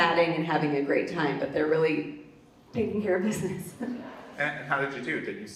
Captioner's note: laughs